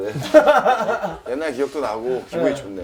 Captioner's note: laugh